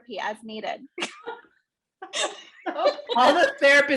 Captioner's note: laughter